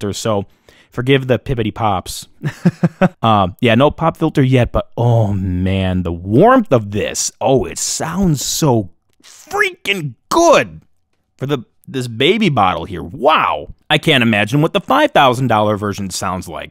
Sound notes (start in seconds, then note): 2.4 laughing